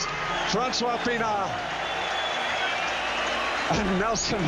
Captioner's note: crowd cheering